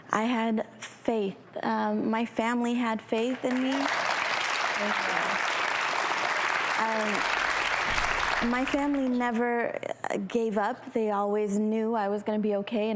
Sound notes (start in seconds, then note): 3.2 applauding